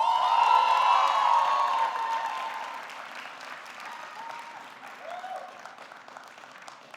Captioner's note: audience cheering; audience clapping